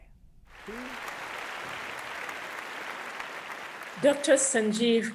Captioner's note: audience applauding